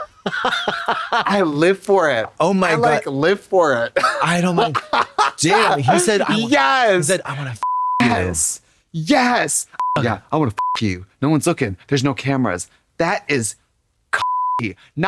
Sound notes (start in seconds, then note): 7.6 beep; 9.8 beep; 14.2 beep